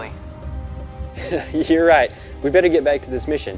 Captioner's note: laughs